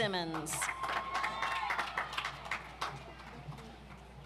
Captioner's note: audience applauds